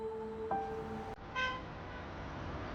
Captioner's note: car horn